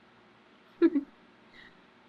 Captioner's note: laughs